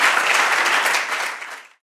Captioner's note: audience applauding